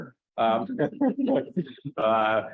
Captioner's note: laughs; laughter